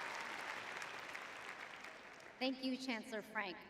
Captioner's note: applauding